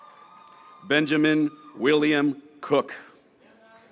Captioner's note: graduates cheering